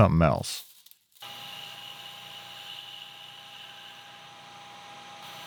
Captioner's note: machine whirring